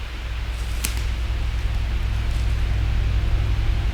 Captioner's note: branches snapping, footsteps